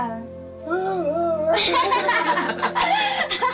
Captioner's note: laughter